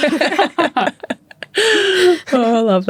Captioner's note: both laughing